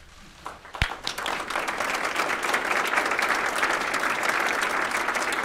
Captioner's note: applause